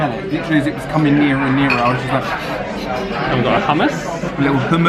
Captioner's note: sniffs